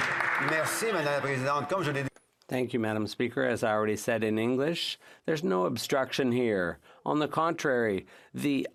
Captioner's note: some Applause